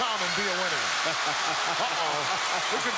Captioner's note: laugh